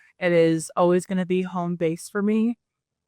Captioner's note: none